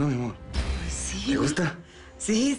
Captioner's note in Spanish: Ríe